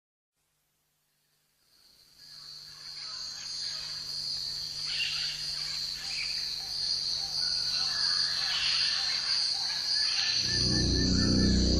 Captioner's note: jungle Sounds